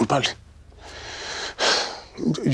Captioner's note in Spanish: suspiro